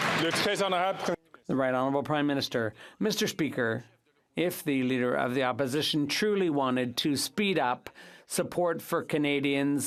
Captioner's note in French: applaudissements